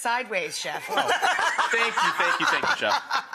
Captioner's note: all laugh